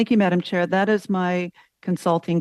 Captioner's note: speaking french